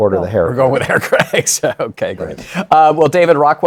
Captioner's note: laughs